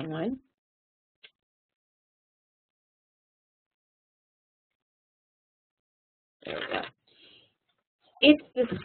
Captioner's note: silence